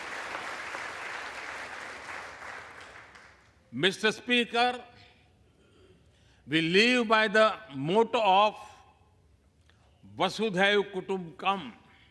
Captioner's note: applause